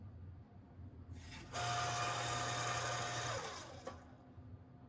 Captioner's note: pasta maker whirs